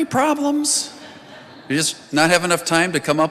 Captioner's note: congregation laughing